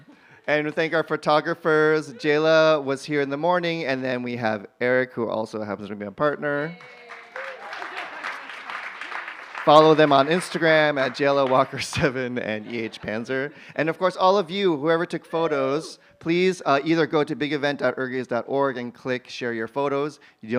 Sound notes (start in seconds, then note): 6.6 cheers, applause